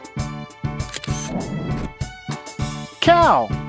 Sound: SFX: Camera Shutter

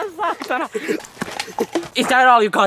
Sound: laugh

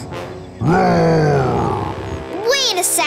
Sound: roaring

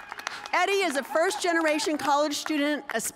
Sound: cheers and applause

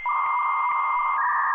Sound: beep

